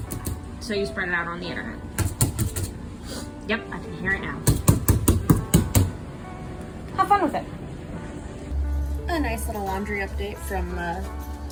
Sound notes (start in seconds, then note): 3.0 sniffs